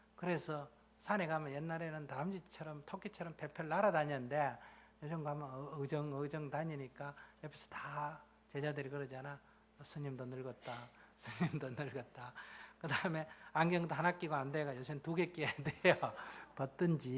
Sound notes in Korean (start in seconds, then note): 11.2 웃음